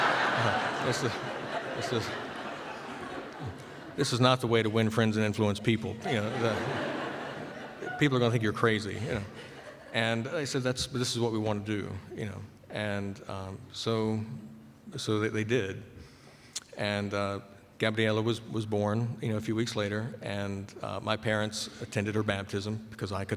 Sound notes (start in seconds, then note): 0.0 laughter